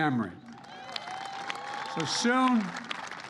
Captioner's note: applause